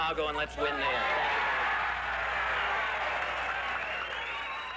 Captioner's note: cheering